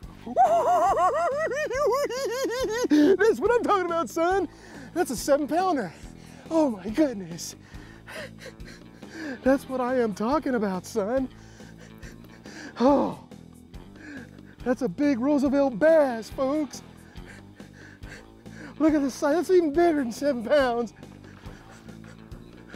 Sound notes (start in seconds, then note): 0.1 cackles; 7.9 chuckles